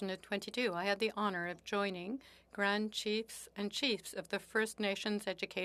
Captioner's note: speaking French